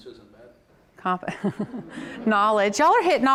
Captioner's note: all laugh